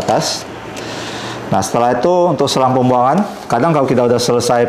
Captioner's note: inhale